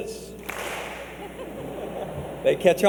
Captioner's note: clap